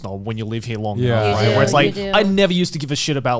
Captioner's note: group agreeing